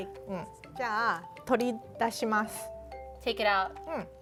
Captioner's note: speaking Japanese